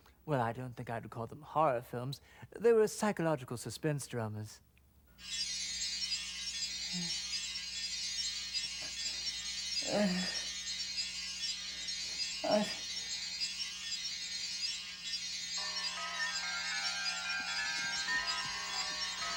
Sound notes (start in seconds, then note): 5.2 eerie music; 6.6 mumbles, groans over eerie music; 15.2 music intensifies